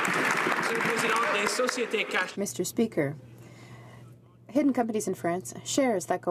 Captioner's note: some Applause